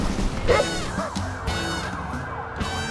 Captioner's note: sirens blaring; dog barking